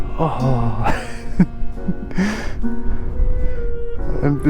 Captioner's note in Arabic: يضحك